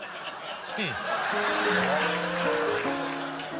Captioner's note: laughter